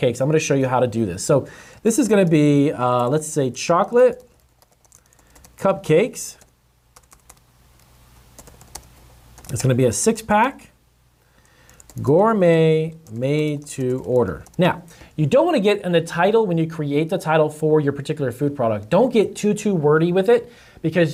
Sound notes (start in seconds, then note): 5.7 typing